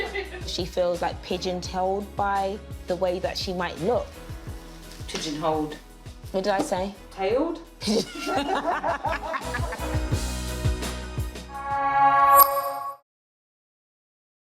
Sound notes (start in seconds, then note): 7.8 laughing